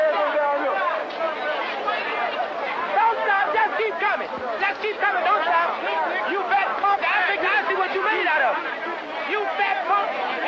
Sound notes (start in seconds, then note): 5.3 yelling